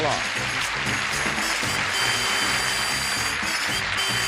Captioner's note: applause; theme music